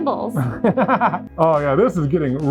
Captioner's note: laughing